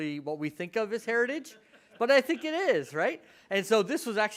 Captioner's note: audience chuckles